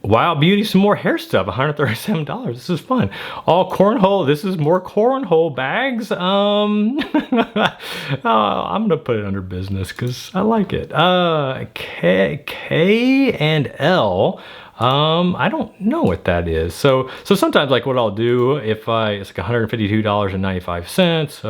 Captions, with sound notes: Wild beauty, some more hair stuff. $137, this is fun. AllCornHole, this is more cornhole bags. (chuckles) I'm gonna put it under business 'cause I like it. K and L, I don't know what that is. So, sometimes like what I'll do if I, it's like $152.95,